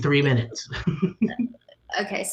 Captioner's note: laughs